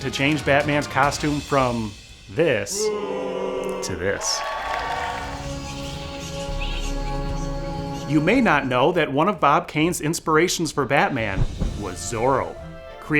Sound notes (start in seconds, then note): 2.7 people booing; 2.7 people cheering; 4.8 bats chittering